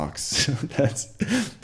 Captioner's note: laughs